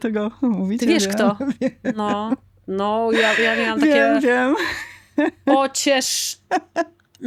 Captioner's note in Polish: śmiech